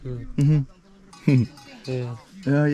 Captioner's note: scoffs